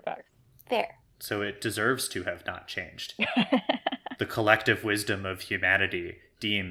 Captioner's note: laughs